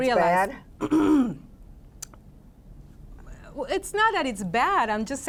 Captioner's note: clears throat